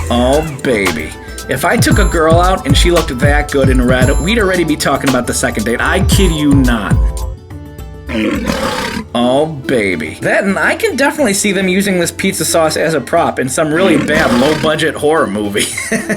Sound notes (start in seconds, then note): 6.8 gentle music continues; 8.0 lion roars; 13.8 laughs